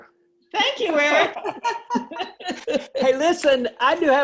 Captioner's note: laughs